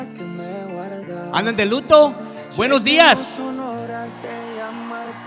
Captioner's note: speaks in Spanish; audience cheers